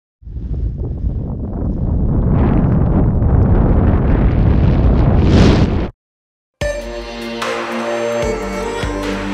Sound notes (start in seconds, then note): 0.2 wind blowing; 6.7 rock music